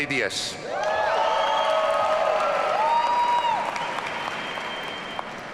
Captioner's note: audience cheering